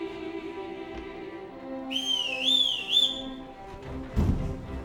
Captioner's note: whistle